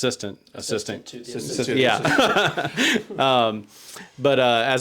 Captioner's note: laughs